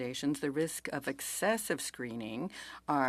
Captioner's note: speaking French